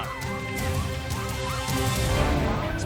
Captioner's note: crowd screaming